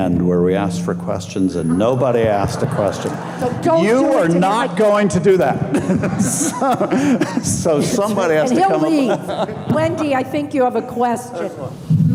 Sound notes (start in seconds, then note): 3.0 audience laughing; 5.5 laughing